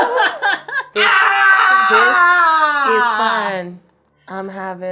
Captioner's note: laughing; screaming